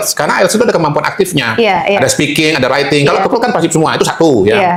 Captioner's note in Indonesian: tertawa